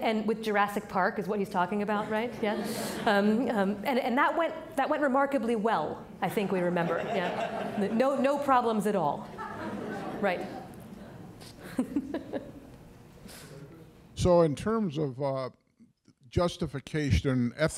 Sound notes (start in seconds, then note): 2.0 audience laughing; 6.6 audience laughing; 9.3 laughs